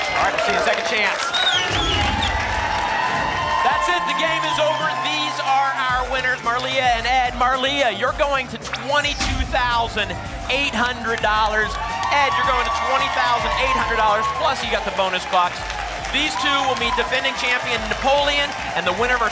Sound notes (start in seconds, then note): 1.7 whoosh; 2.6 applause and cheering